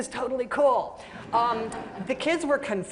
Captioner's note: laughter